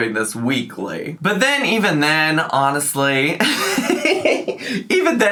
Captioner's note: laughs